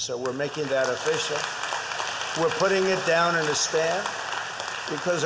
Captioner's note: applause